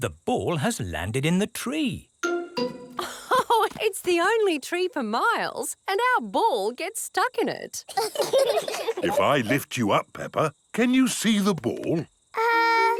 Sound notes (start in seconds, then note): 3.0 laughs; 7.8 children laugh